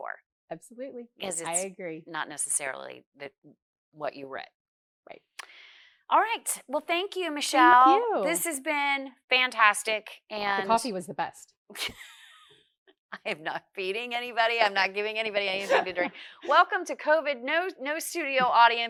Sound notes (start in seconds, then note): 11.7 laughs